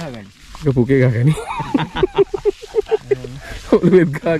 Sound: laughing

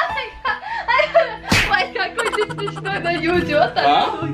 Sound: speaking in Russian

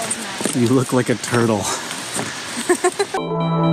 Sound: laughs

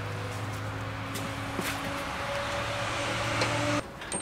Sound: mechanical noises

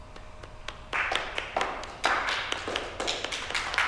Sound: group applauding

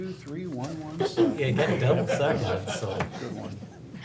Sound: laughing

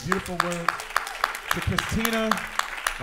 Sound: applause

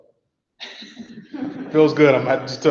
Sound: laughs

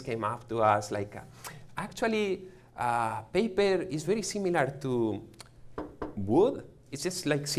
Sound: knocks

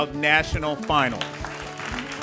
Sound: ^applause^

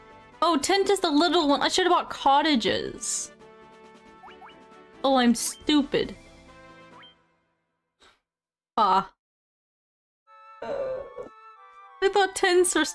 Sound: groan

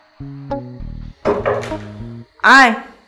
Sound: knocks

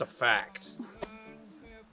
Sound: laughs

